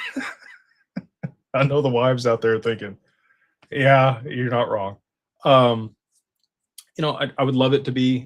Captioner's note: laughter